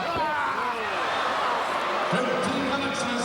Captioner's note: crowd cheering